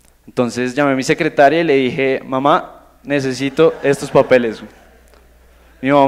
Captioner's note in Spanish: risas